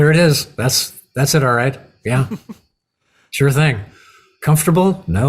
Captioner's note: chuckle